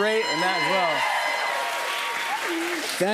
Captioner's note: cheers and applause